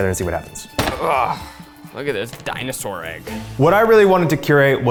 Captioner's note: grunts